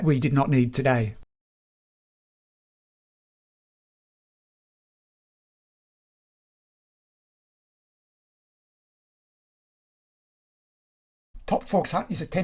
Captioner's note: no sound